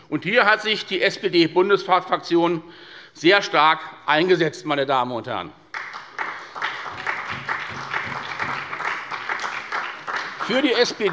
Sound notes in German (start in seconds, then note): 5.7 Beifall bei der SPD